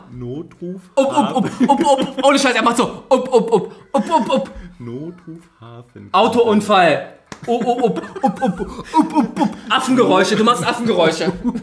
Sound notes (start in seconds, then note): 3.2 monkey noise; 8.9 laughs